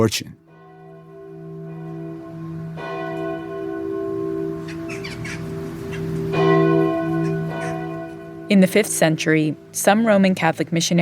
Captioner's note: soundbite of bells ringing, birds cawing